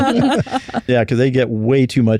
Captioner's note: laughter